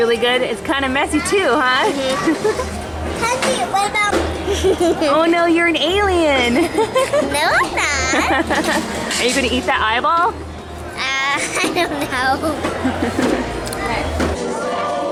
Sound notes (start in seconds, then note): 4.5 giggles; 4.5 laughs; 6.6 laughs; 10.9 laughs